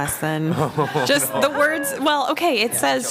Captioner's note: laughter